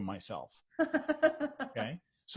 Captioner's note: laughs